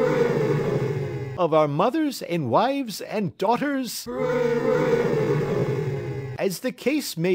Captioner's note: _cheers_; _prolonged cheering_